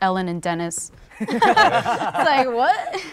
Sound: laughter

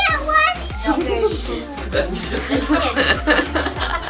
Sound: laughing

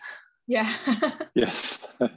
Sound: laughs

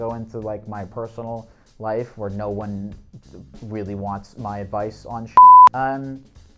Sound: beep

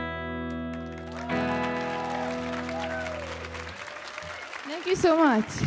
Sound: audience applauding and cheering

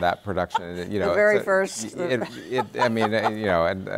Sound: laughs

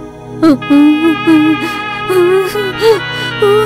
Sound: crying

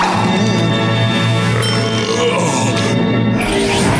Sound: belching

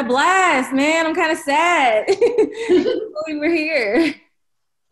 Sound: laughs

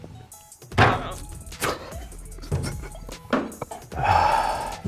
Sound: laughing

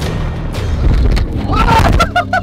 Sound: banging; laughing

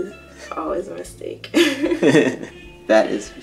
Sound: laughter

